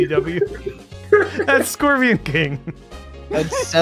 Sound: laughter

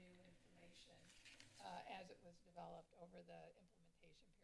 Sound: paper flapping

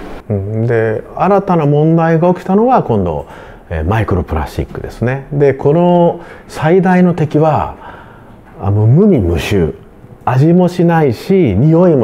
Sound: speaks in Japanese

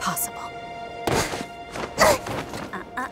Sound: thumps

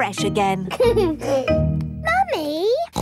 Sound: giggles; snorts

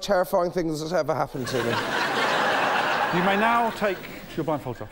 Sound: laughter

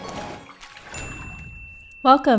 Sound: splashing water; ding

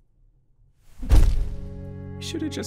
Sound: powerful fist slam; somber music

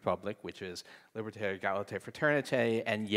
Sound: speaking in foreign language

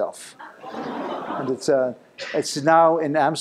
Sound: laughter

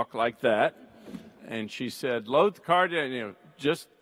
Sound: speaks in Greek

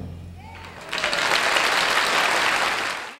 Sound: audience applauding

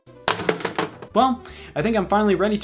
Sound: clattering

